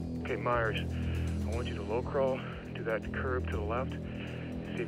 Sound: breathing; breathing

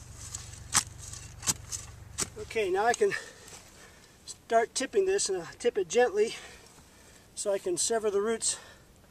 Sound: digging sound

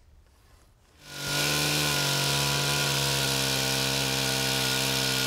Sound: chainsaw engine roaring

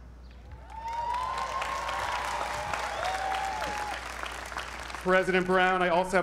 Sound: applause

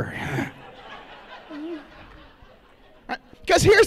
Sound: laughter

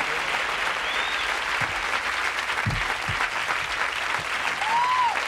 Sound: audience applause

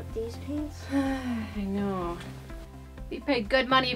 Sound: sighs

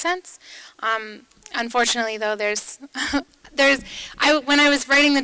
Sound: chuckles

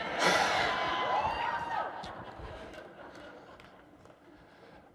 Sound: laughter and cheering

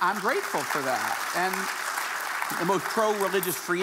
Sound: audience applauding

